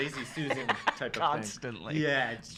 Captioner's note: laughs